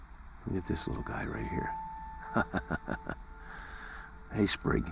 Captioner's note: chuckles